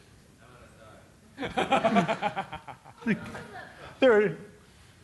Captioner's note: laughter